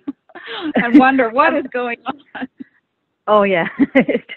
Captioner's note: laughs